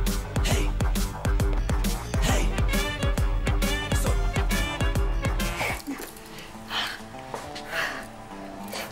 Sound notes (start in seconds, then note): 6.6 Exhales sharply